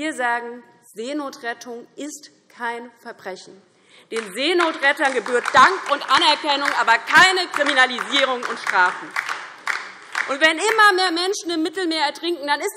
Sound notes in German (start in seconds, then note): 8.4 Beifall DIE LINKE und vereinzelt SPD